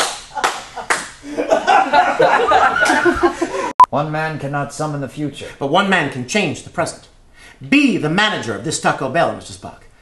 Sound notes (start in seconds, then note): 1.2 laughter